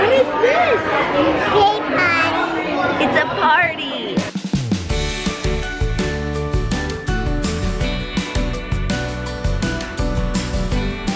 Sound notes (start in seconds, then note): 1.1 baby talking; 4.3 upbeat children's music